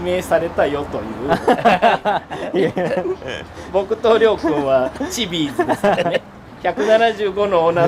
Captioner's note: laughs